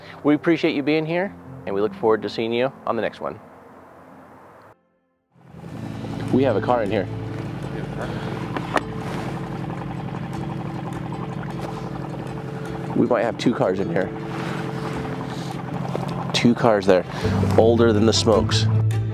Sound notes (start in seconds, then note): 5.6 boat engine chugging; 9.0 equipment clattering; 10.7 boat engine chugging